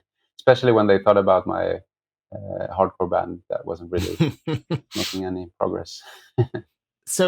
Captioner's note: laughter